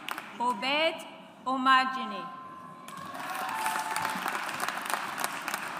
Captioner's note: audience applauds